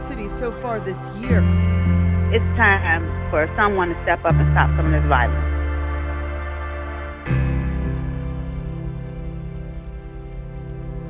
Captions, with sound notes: in the city so far this year. - [Voiceover] It's time for someone to step up and stop some of this violence.